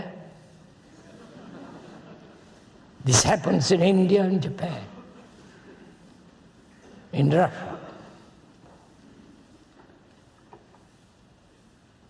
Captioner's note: laughter